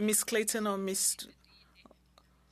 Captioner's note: speaking French